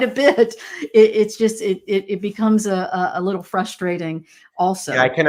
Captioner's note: laughs